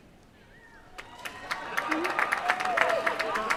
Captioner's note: cheering